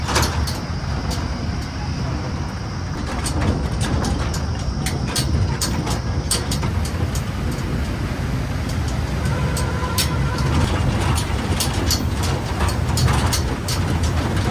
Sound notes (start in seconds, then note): 9.1 horn sound